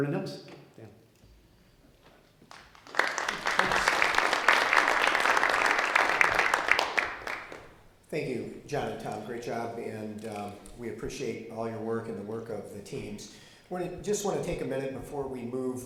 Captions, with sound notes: (audience clapping) >>Thank You John and Tom great job and we appreciate all your work and the work of the teams. I just want to take a minute before we move over